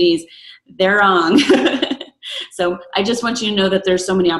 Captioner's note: laughs